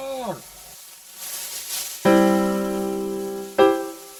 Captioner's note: dust blowing